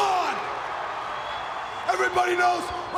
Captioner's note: crowd cheering